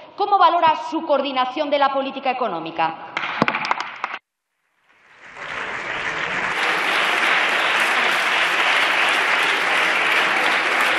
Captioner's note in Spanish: Aplausos